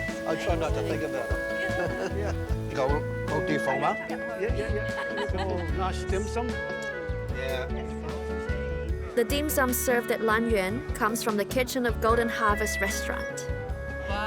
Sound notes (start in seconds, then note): 2.2 gentle music; 4.2 chatter